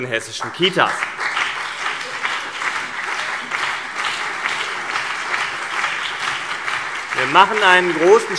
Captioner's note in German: Beifall CDU und BÜNDNIS 90/DIE GRÜNEN